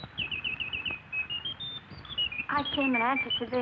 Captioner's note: bird chirping